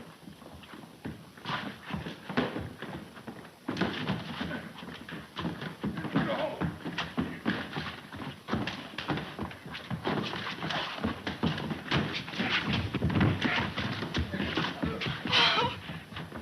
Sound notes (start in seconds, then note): 5.7 blows thudding; 5.7 men groaning